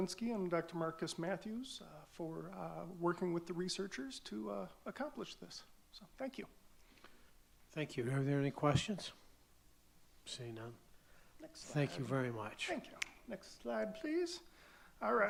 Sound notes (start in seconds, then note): none